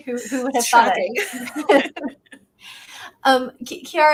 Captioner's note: laugh